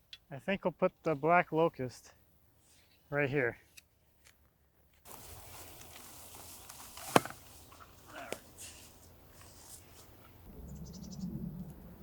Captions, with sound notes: I think we'll put the black locust right here. (footsteps shuffling) (tube falls) All right...